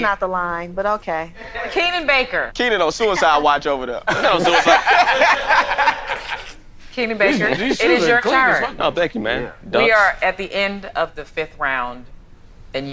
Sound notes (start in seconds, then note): 4.0 all laughing